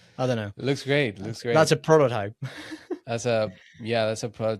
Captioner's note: laughs